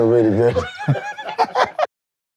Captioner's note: laughing